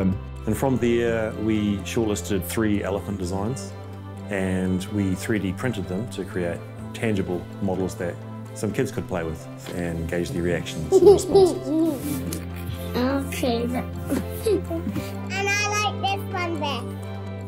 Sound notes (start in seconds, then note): 10.9 laughing